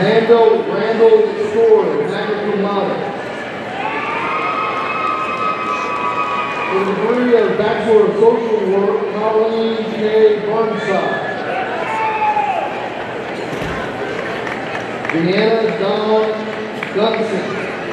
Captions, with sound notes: Amanda Randle Story, magna cum laude. (audience cheering) For the degree of Bachelor of Social Work, Colleen Kay Burnside, Deanna Dawn Duensing,